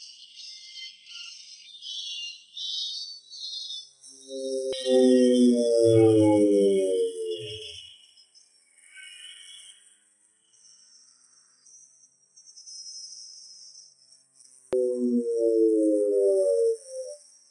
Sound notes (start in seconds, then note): 2.6 plane engine whirring